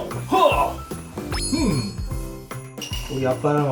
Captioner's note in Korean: 반짝이는 효과음